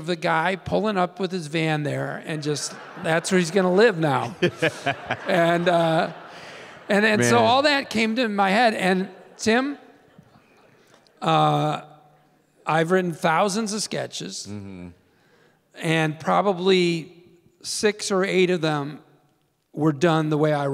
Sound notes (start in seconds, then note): 4.6 Tim laughing; 5.6 audience laughing